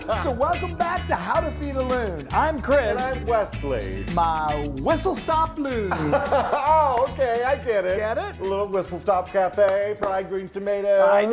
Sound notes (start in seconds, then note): 0.0 laughs; 5.6 laughing